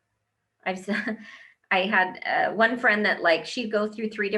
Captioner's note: laughs